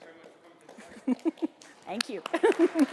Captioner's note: applause